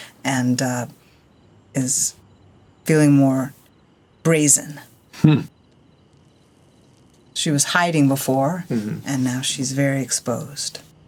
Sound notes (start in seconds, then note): 5.2 chuckles